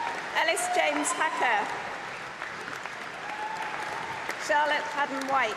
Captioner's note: applause